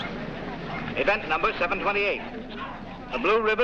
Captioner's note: man over PA